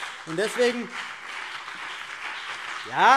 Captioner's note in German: Beifall BÜNDNIS 90/DIE GRÜNEN